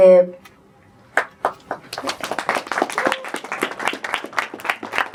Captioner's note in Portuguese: Palmas